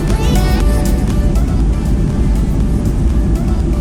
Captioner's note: engine roaring